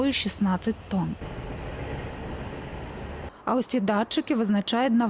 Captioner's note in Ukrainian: їдуть вантажівки